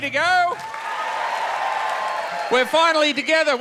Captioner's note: audience cheers and applauds